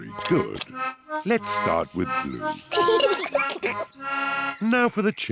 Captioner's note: both giggle